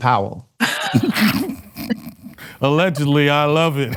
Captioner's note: laughter